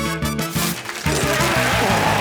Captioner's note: paper rustling; retching; sighs